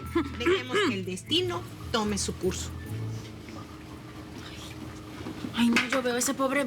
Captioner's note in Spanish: Carraspea